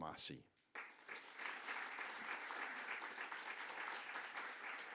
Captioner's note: audience clapping